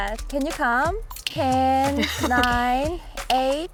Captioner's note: countdown sound effect